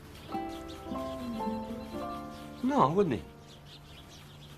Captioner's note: none